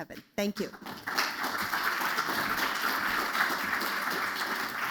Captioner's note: applause